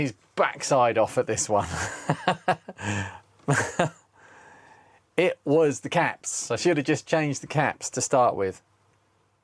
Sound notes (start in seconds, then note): 3.4 laughing